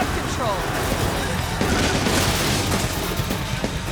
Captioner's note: car crashes